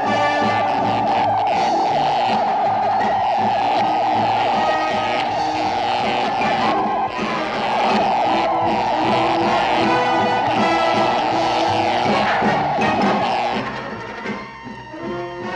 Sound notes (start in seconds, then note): 1.4 buzzing